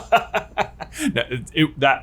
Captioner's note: evil laughter